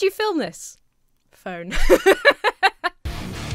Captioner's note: laughs; heavy metal music